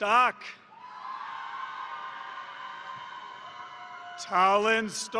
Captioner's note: crowd cheering; crowd applauding